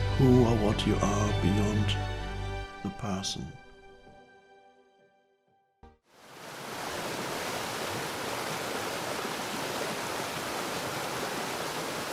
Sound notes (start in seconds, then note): 6.2 waterfall streaming loudly